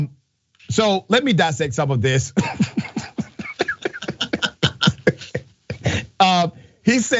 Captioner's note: laugh